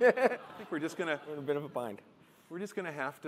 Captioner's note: laughter